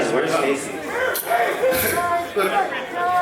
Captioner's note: crowd